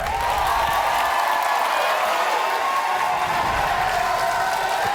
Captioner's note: audience cheering